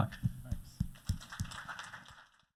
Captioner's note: applause